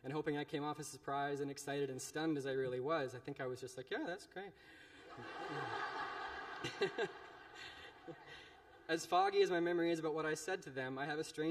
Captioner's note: laughter